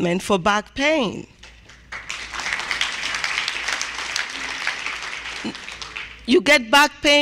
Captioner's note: applause